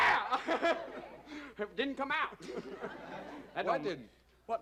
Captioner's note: yells